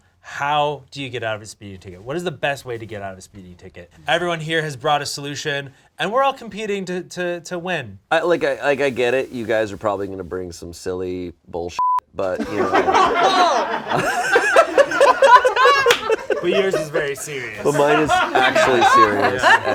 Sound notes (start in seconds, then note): 12.3 laughter; 14.9 laughs; 14.9 laughs and claps